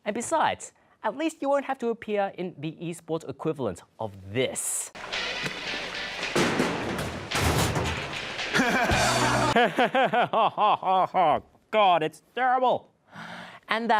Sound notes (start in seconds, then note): 8.6 despairing laughter; 8.6 poorly acted laughter